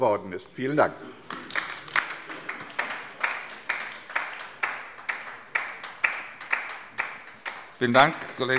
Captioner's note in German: Beifall bei der LINKEN